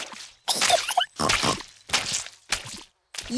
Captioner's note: giggles and snorts